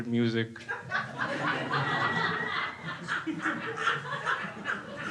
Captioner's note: crowd laughs